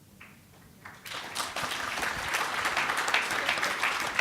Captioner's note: applause